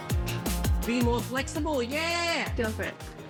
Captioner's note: Australian accent